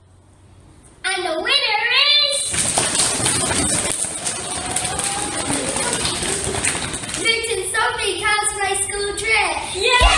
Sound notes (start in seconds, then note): 2.9 knee drummiing and foot stamping …; 10.0 cheering and clapping!